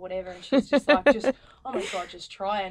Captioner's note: laughing